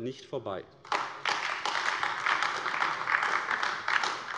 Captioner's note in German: Beifall AfD